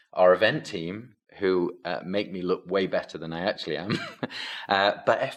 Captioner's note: chuckles